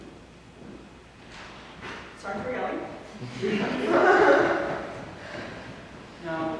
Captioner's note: audience laughs